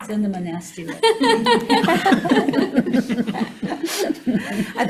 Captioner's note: all laughing